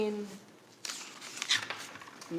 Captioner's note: pages rustling